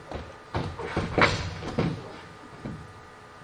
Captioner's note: falls